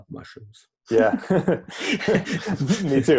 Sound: laughing

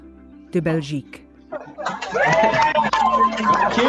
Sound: cheering

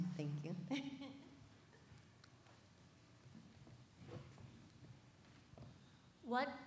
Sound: chuckles

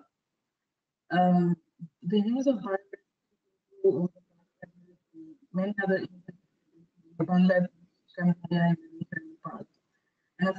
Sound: audio static; audio static

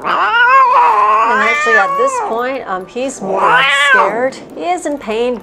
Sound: meows drown out speaker

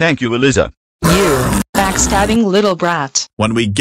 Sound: snow leopard growling

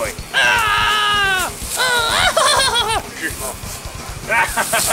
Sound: In Emperor Palpatine voice; Luke Scream, Salacious Crumb Laugh, Jabba laugh; laughing

